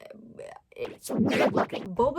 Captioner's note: stammering; underwater effect